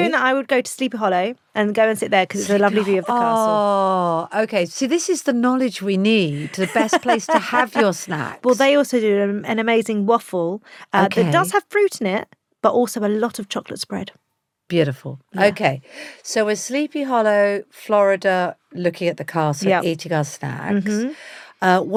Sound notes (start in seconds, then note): 6.3 laughs